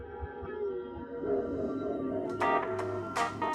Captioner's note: distant dog barking